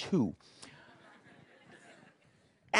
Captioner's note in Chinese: 笑聲